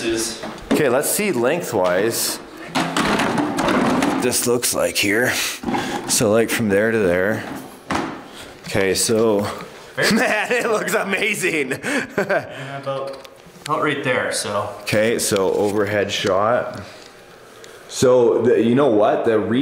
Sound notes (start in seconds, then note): 11.6 laughs